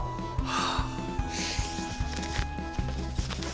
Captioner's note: gasps